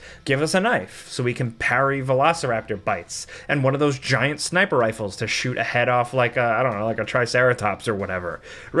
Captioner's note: none